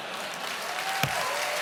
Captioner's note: applause